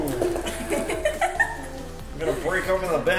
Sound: laughs

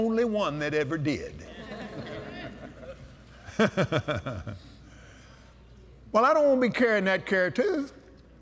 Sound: laughter

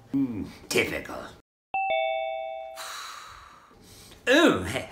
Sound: doorbell noise

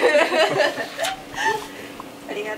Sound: laughing

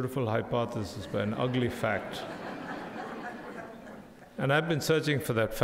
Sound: crowd laughing

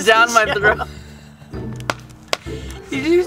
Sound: laughing

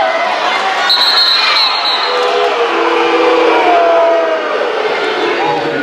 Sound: applause

